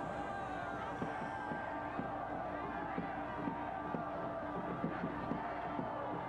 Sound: crowd yelling

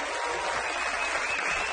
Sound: audience applauds

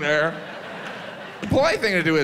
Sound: audience laughs

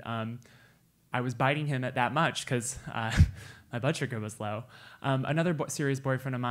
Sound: laugh

